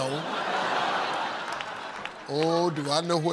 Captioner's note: laughter